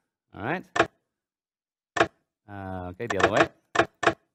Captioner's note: mechanical clacking